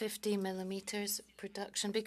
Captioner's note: speaking French